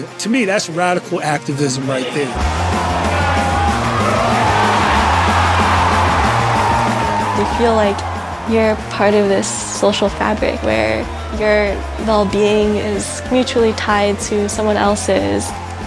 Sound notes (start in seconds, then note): 5.2 crowd cheers